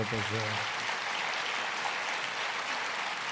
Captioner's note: applause